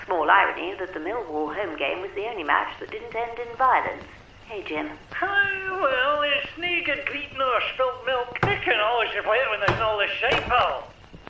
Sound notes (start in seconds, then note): 5.3 Jim mumbling with strong Scottish accent